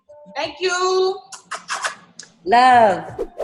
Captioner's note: smooches